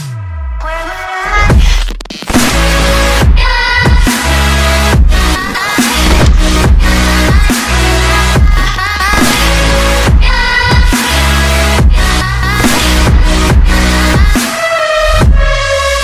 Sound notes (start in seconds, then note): 9.1 pew pew